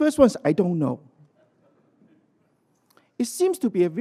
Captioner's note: laughter